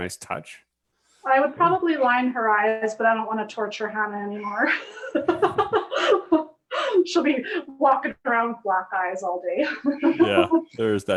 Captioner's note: laughs